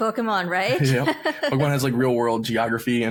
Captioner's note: laughing